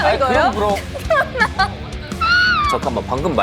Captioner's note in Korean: 큰 웃음